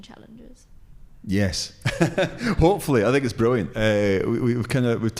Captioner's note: laughs